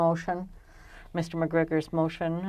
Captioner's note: speaking French